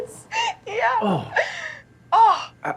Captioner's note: Vivian laughing